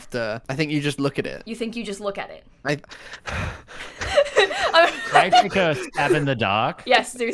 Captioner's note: heavy breathing